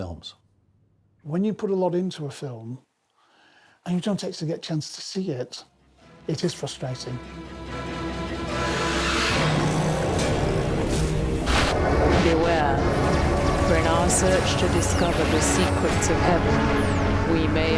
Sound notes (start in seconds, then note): 9.0 intense thriller music; 12.8 laser zapping